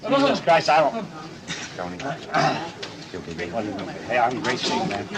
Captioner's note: crowd chatting